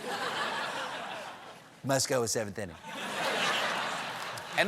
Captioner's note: laughter